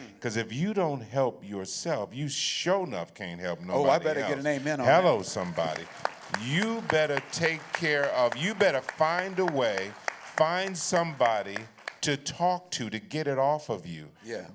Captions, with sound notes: because if you don't help yourself, you sure enough can't help nobody else. -Oh, I better get an amen on that. -Hello somebody. [appluase] You better find a way, find somebody to talk to, to get it off of you.